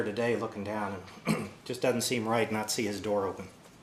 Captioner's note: cough